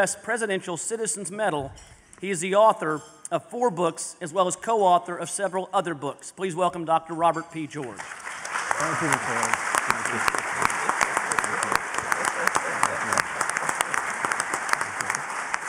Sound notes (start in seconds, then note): 8.0 applause